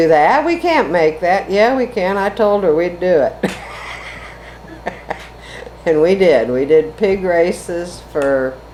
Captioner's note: laughs